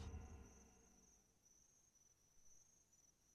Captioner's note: insects chirping